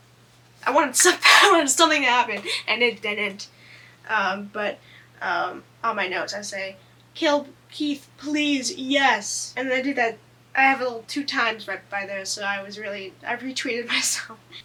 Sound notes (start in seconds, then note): 2.4 laughs